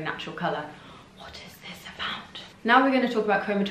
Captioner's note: whispering